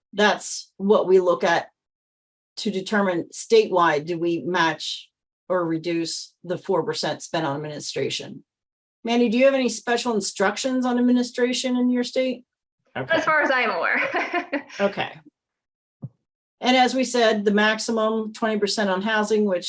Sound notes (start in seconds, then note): 13.0 chuckles